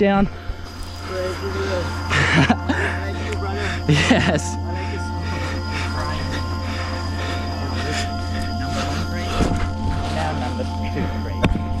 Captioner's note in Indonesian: laugh